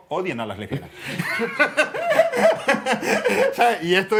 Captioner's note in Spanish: Risas